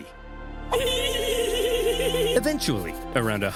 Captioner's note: generals giggling